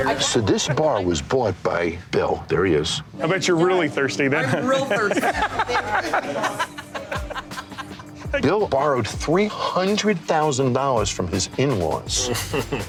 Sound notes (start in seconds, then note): 4.6 man laughing